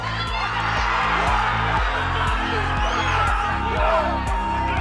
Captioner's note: crowd cheers; whooping